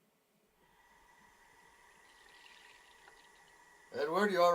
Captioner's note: faucet running